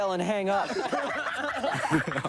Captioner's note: all laughing